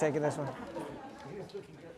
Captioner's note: audience laughing